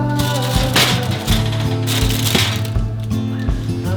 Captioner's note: paper crinkles